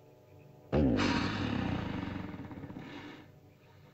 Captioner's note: ominous music; dinosaur snorts